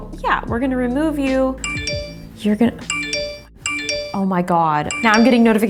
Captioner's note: phone chimes